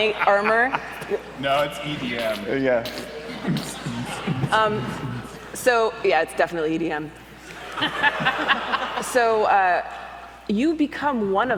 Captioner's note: making squishing noses to a beat with mouth